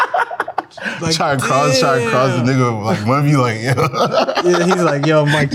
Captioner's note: laughing; laughs